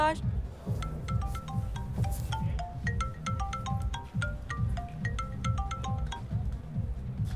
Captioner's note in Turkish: Telefon Çalıyor